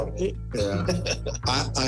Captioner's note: laughter